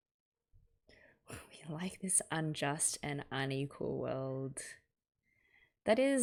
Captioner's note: intake of breath